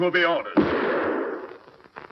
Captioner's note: gunshot